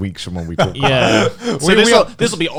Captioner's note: all laughing